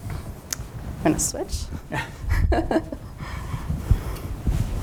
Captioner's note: chuckles